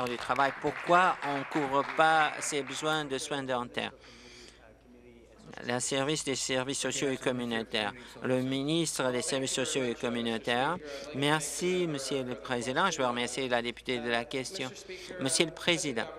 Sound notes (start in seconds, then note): 3.3 applause